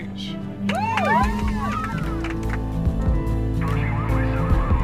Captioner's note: women cheer